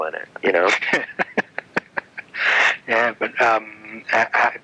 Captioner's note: laughing